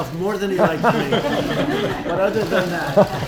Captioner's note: laughter